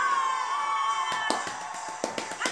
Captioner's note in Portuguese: palmas